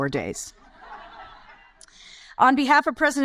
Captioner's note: audience laugh